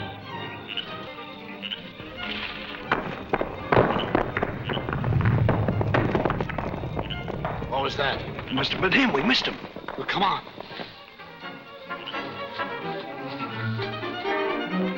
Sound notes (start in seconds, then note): 3.5 rocks tumbling; 10.6 dramatic, orchestral music